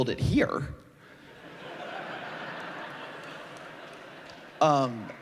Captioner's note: laughter